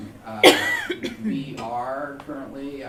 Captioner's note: coughing